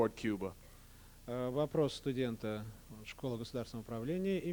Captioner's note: non-english speech